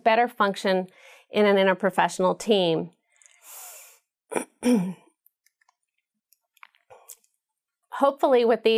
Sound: cough

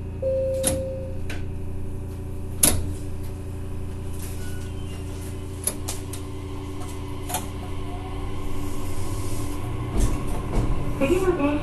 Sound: beep; acceleration sound

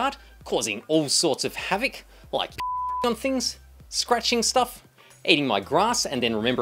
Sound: beep

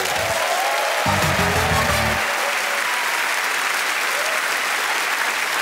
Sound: cheers and applause

